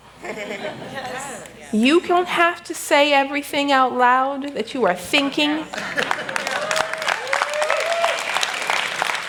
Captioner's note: laughter; applause